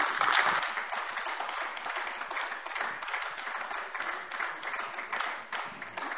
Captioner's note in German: Beifall AfD